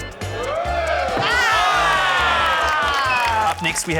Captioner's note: applause